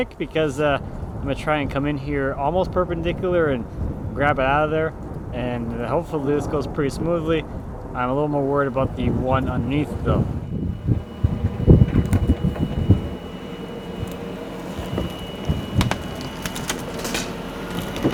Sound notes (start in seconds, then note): 11.6 fork truck motor humming